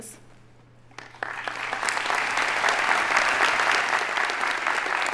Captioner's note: audience applauding